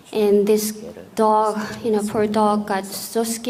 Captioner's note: none